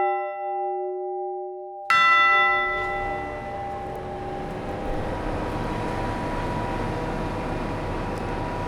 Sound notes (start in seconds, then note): 5.0 engine noise